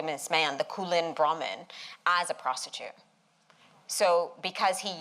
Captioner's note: non-english